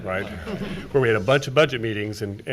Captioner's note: everyone chuckling